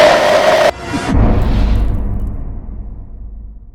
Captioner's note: scream; impact